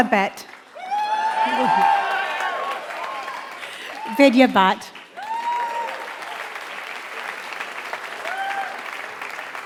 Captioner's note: applause